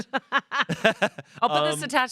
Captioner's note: everyone laughs